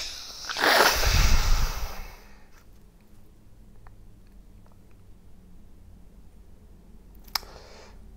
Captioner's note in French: soupire